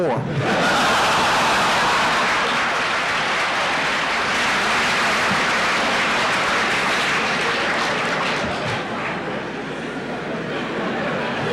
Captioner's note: laughter in the courtroom